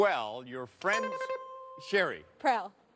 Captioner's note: bing